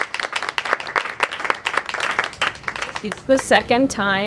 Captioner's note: audience clapping